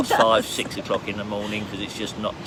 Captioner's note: laughs